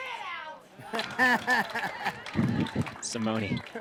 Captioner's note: laughs